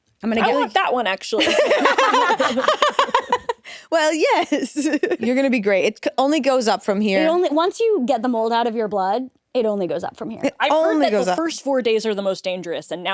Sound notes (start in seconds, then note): 1.3 all laughing